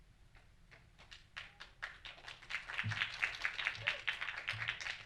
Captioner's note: audience clapping